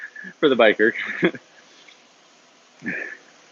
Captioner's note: laughs